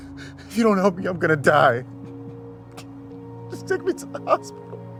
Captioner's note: sobbing